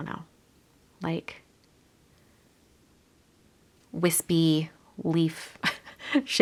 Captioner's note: laughs